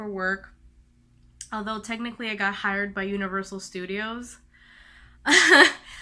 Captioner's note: laughs